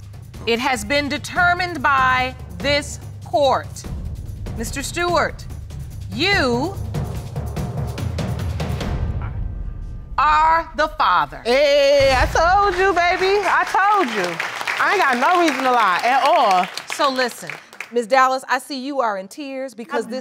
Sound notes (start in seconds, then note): 14.3 applause